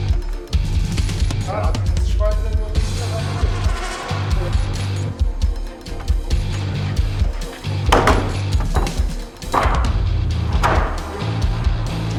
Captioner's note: conversation and construction noises